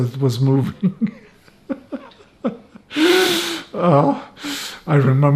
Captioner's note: laughing